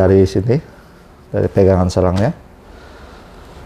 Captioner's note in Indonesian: suara selang